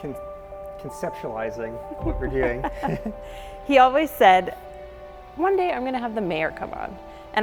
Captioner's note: laughs